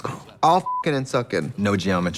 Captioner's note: beep